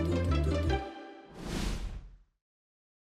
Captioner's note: upbeat music; whoosh sound